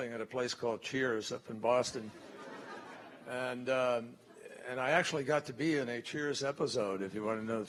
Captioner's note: laughter